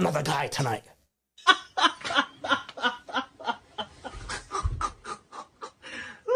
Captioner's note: Ketawa